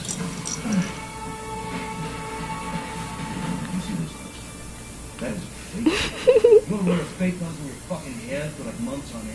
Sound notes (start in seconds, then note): 5.8 laughs